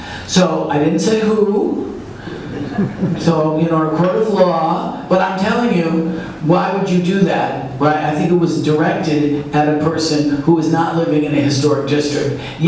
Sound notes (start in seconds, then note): 2.1 audience laughs